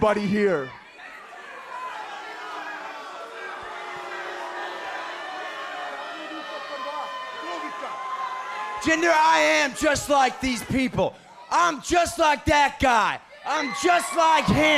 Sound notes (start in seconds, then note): 2.2 speaking in foreign language